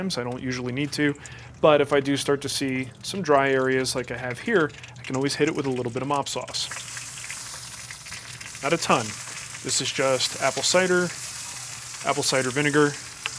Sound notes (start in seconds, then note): 6.9 sizzling